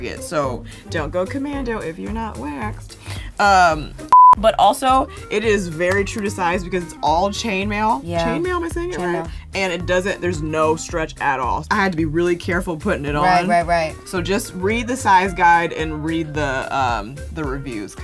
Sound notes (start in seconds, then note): 4.1 beep